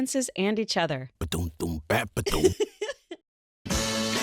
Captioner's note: happy giggle